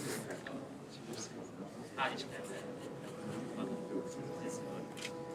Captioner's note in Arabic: ليفون يتحدث بهدوء